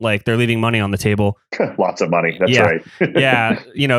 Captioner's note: laughs